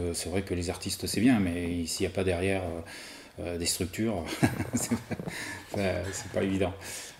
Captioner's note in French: rires